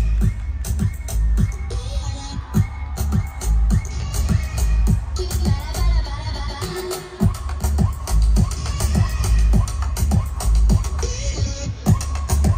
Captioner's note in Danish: Bifald